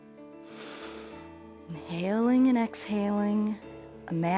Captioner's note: inhales